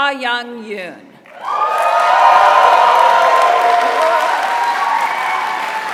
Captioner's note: applause